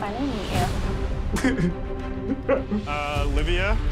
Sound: sobs

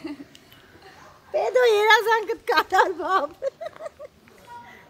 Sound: speaking Armenian

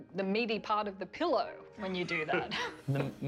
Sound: laughter

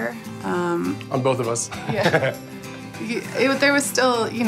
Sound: laughs

